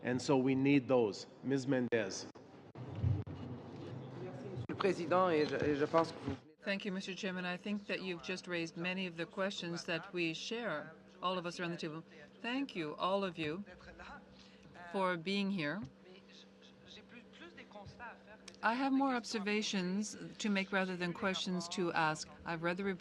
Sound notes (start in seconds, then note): 9.6 speaking French